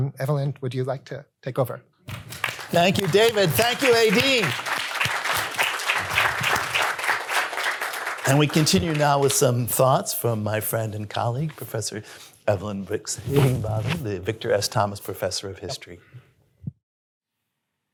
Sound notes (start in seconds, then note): 4.6 applause